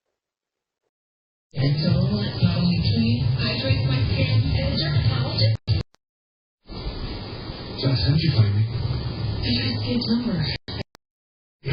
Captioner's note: "General Hospital" plays in background